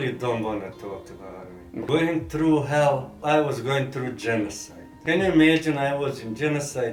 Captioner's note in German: none